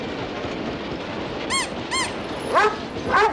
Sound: squeaking

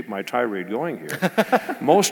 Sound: laugh

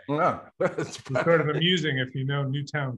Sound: laughs

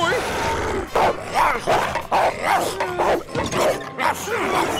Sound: barking

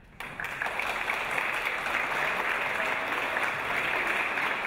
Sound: audience applause

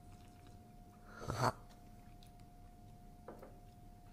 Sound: slurp

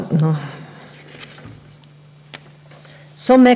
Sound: papers rustling

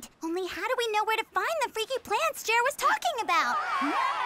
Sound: panicked screaming

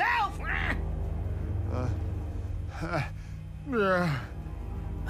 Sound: grunting

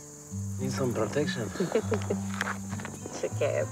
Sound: chuckles

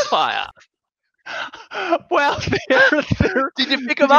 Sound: both laughing

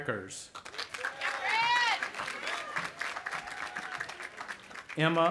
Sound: audience applauding and cheering

